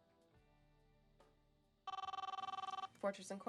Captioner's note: phone rings